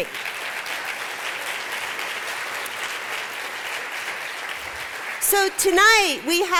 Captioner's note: applause